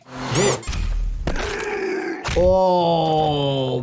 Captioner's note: monster growls